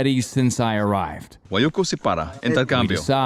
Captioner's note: speaking in foreign language